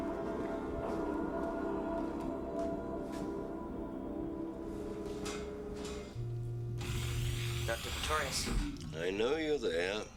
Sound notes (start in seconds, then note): 6.6 door slides open